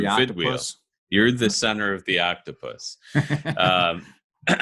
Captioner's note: laughs